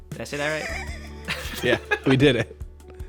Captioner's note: laughter